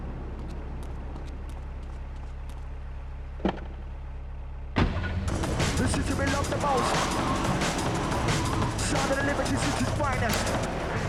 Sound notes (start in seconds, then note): 1.5 tires screech